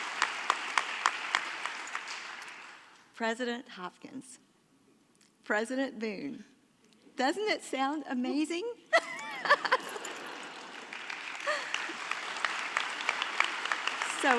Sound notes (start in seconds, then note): 8.9 laughing; 11.9 audience applauding